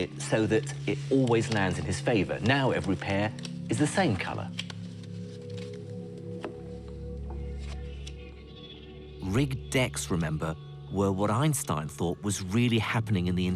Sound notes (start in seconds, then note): 9.5 voiceover